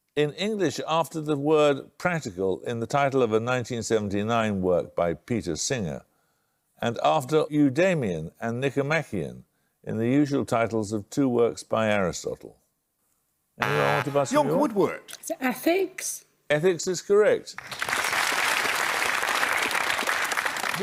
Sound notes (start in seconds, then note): 13.6 buzzer; 17.5 applause